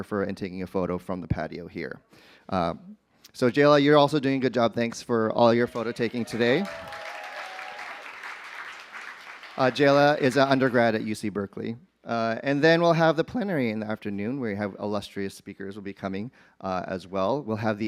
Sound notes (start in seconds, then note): 7.1 applause